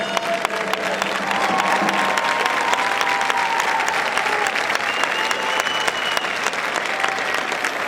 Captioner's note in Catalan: aplaudiments